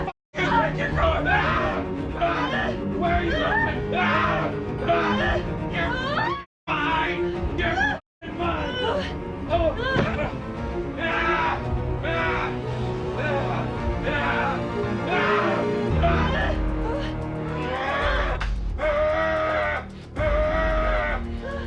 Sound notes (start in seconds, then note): 4.8 Larry screaming; 11.0 both moaning; 11.0 Larry screaming; 13.8 dramatic music; 17.9 Larry growling; 21.4 dramatic music